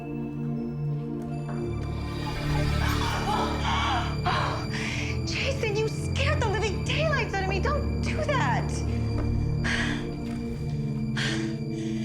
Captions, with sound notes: (screams) - Jason, you scared the living daylights out of me! Don't do that!